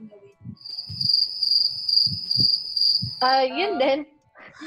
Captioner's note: cricket sound effects